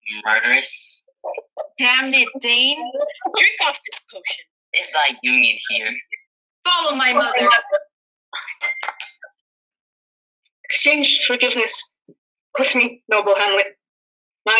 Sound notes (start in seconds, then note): 8.4 cup clatters